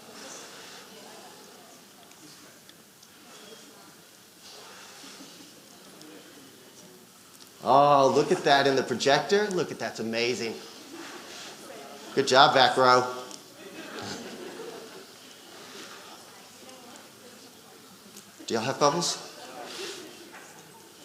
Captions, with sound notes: Oh, look at that in the projector. Look at, that's amazing. Good job, back row. (audience laughing) Do y'all have bubbles?